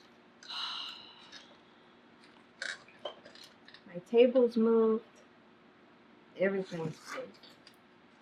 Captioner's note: exhales loudly